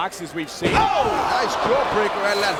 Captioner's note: commentators exclaim